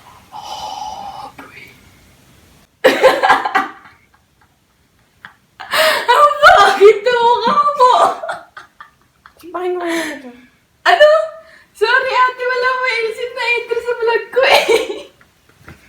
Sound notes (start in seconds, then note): 2.9 laughing; 5.6 laughing